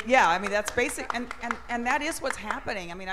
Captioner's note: applause